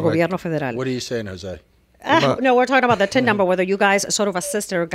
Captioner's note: Hablando ingl\s